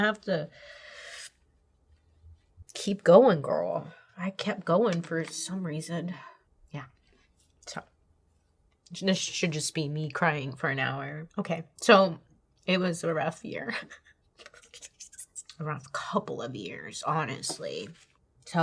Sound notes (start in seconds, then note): 13.4 laughs